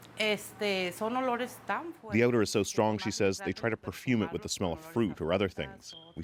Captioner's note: speaking spanish